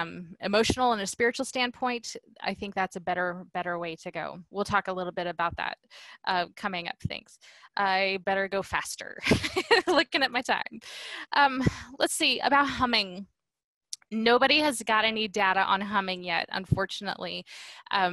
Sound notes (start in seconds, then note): 9.2 laughter